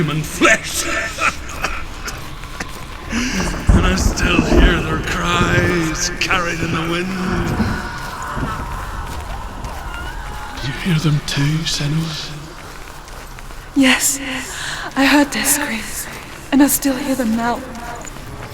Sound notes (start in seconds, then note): 0.8 coughs; 3.3 sobbing